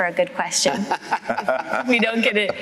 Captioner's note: laughter